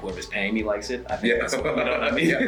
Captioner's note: laugh